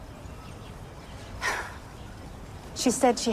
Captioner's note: sighs